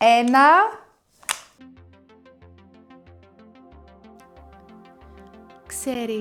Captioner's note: sound of lighting